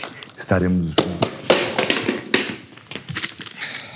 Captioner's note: box falls to the floor